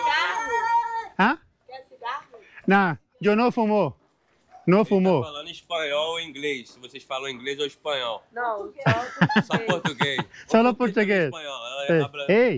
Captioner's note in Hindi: पुर्तगाली में बोलते हुए